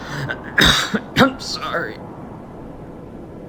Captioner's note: Elias coughs